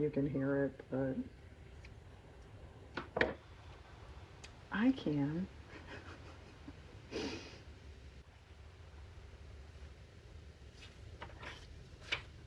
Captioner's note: laughs